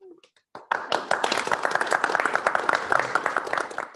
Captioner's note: applause